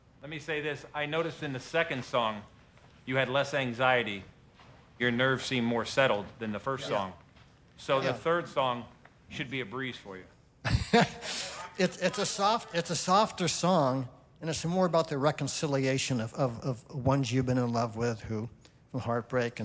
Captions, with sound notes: Let me say this. I noticed in the second song, you had less anxiety. Your nerve seemed more settled than the first song. Yeah. Yeah. So the third song should be a breeze for you. [chuckles] It's, it's a soft... it's a softer song and it's more about the reconciliation of, of, of ones you've been in love with who, from heartbreak...